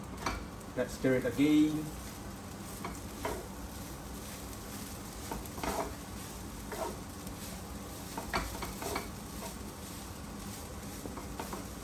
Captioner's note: cooking sound